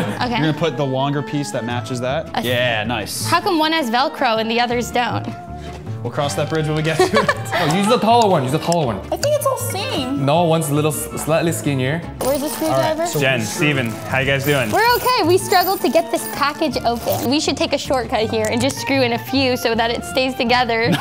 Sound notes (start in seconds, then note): 6.9 laughs